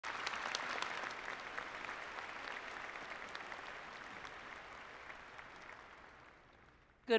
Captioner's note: applause